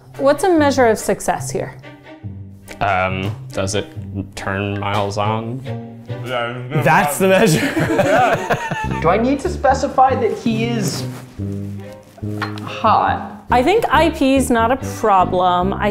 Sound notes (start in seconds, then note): 6.8 group laughing; 7.4 mumbling